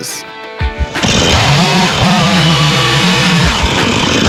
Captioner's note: chainsaw whirring